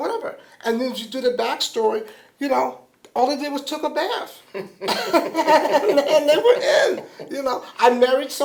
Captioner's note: laughter